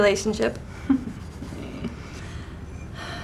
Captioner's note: laugh